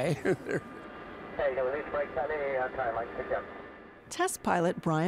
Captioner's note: laughing